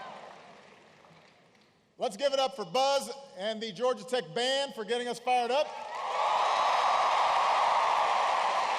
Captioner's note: laughter and applause; applause